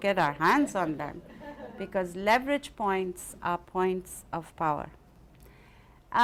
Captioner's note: laughter